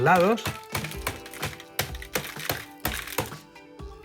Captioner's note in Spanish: Golpes; Música suave